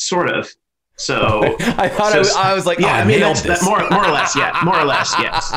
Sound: laughter

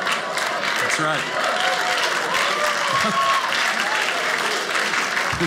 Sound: audience clapping

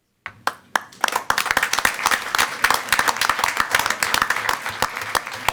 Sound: attendees applauding

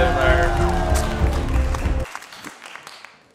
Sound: cheering

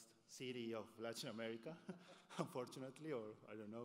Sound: laughs

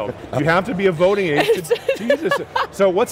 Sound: laughs

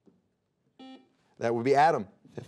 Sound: buzzer beeping

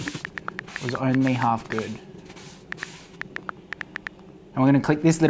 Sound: keypad clicking; keypad clicking

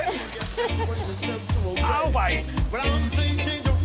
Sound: laugh

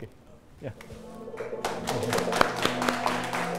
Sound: applause

